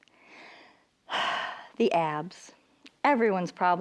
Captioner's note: sighing